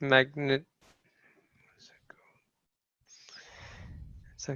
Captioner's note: in a whisper